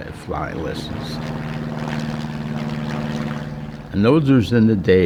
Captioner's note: engine whirring